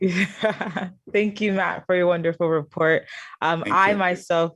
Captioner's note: chuckles